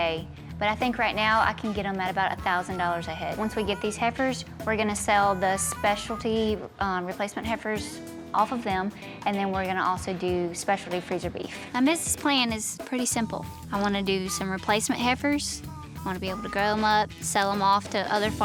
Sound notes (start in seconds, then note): none